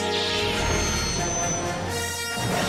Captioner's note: Millennium Falcon roaring; lightsaber igniting; upbeat orchestral music